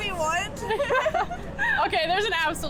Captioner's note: women laughs